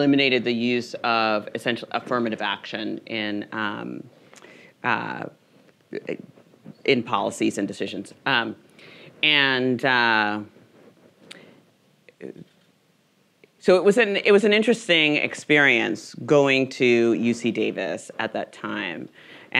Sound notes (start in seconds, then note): none